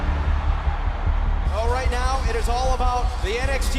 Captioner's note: crowd cheering